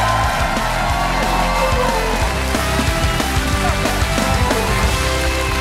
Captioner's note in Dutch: applaus en gejuich